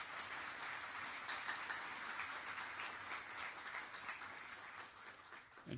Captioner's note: applause